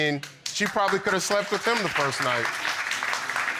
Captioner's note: audience clapping